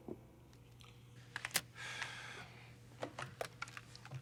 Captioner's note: sighs